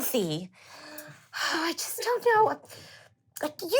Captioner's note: sighing